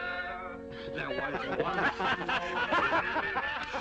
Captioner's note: laughter